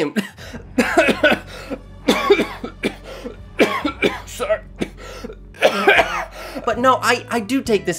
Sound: excessive Coughing

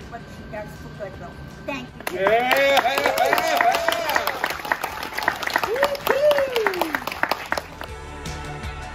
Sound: applause

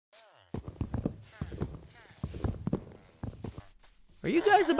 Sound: bricks falling

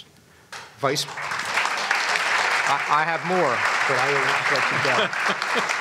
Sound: applause; laughs

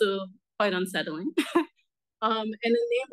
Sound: laughs

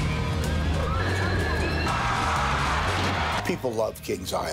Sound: people screaming

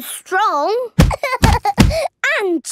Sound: banging

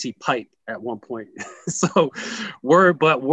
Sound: laughs

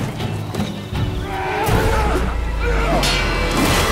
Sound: yell; clang

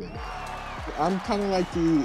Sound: crowd cheering

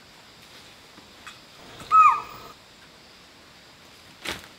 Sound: the sound of a deer

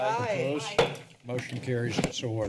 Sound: gavel slams

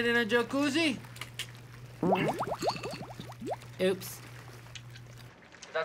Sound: Raoul clicking his tongue and Liliana farting

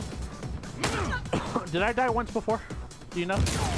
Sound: cough

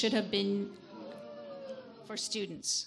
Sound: audience woos

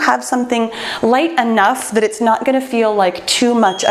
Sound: bell chimes

